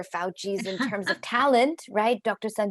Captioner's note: laughing